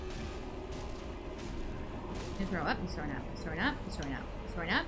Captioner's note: gunfire